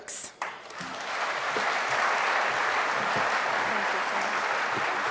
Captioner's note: audience applauding